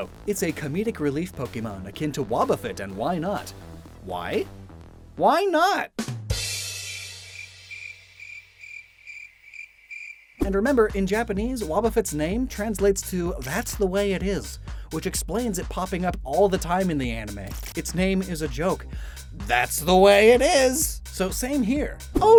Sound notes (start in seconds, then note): 5.7 cricket chirp SFX; 6.1 drum ‘b’dum tsss SFX